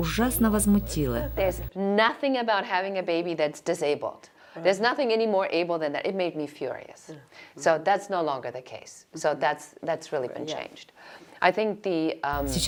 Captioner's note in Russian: Разговаривают на английском